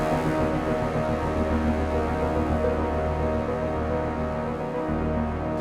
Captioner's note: none